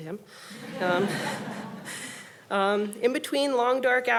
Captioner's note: audience laughing